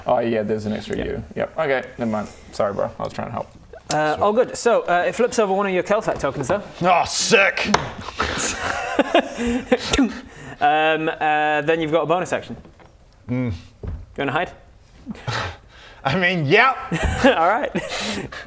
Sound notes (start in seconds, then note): 8.2 totally innocent laughter